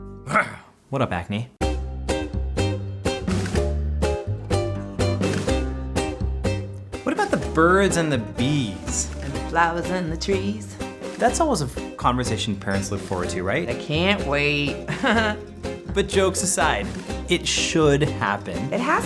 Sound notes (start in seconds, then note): 0.7 roars; 1.7 Latin music; 14.8 laughs